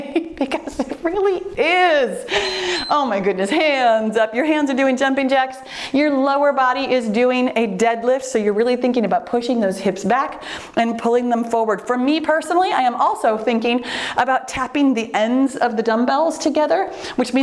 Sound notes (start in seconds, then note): 2.0 laughs; 2.3 timer beeps